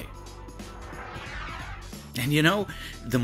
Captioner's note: whoosh sound